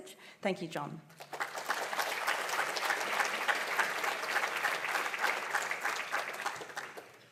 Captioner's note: applause